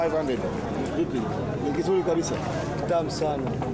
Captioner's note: speaks Swahili